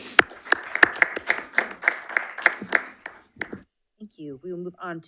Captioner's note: audience applauding